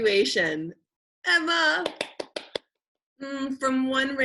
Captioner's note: clapping